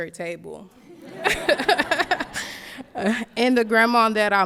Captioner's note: laughs